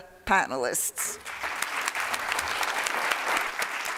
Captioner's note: applause